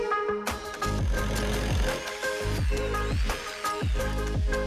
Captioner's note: drill whirs